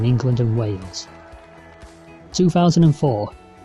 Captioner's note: crowd cheers